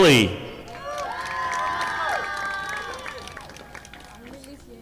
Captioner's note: audience applauding